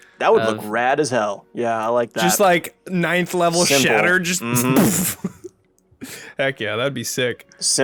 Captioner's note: explosion sound